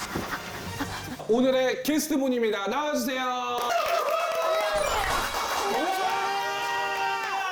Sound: applause

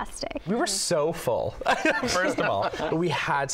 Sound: laughs

